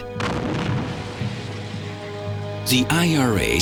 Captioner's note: explosion booms